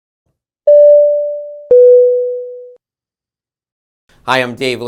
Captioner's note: electronic tones